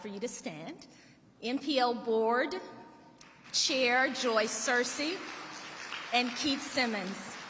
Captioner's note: audience applauding